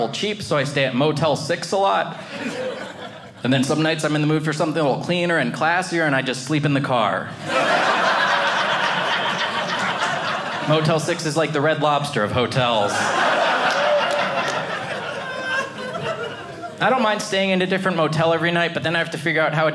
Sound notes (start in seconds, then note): 7.4 audience laughing; 12.7 audience laughing